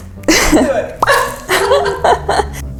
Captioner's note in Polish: śmiech